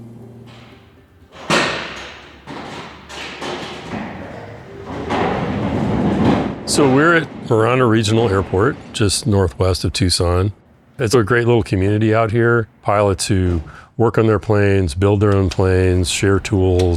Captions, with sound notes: [ HANGAR DOOR OPENING ] So we're at Marana Regional Airport, just northwest of Tucson It's a great little community out here, pilots who work on their planes, build their own planes, share tools.